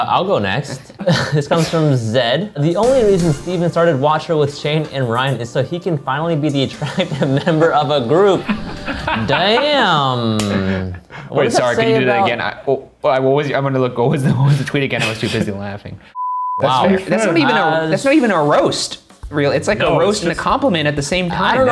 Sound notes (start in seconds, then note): 8.2 laughing; 10.5 claps; 16.1 beep